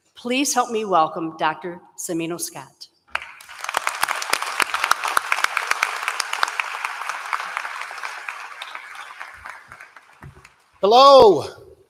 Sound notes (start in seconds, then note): 3.1 applause